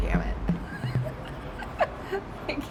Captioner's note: laughs; server laughs